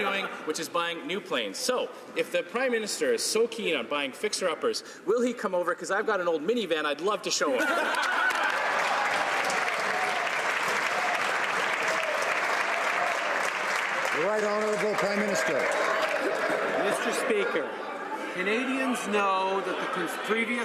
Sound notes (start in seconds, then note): 13.3 some Applause